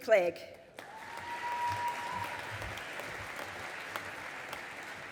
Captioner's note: audience applauding